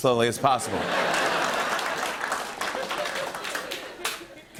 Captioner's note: laughter and applause